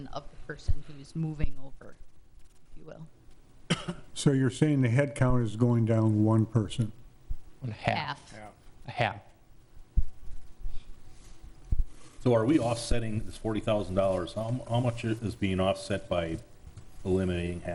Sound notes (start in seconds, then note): 3.7 person coughing